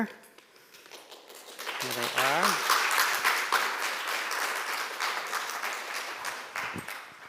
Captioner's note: attendees applauding